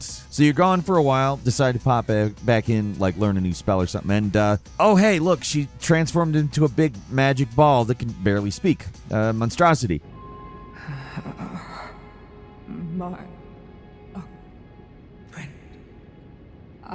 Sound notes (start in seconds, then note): 11.4 Sellen stammering